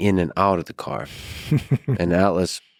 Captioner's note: laughs